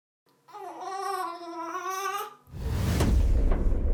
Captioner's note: baby cooing; air whooshing; slamming